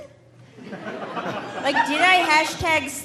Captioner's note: audience laughing